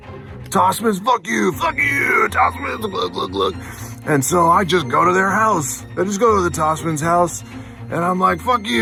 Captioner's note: drinking noises